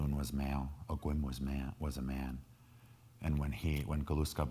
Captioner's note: speaking in foreign language